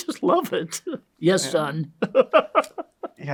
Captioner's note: laughs